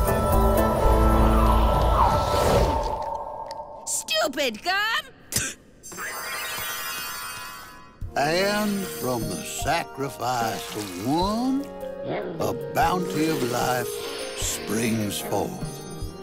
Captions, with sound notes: (whooshing) STUPID GUM! (spits) And, from the sacrifice of one, a bounty of life springs forward.